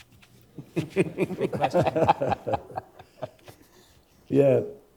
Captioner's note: panelists and moderator laughing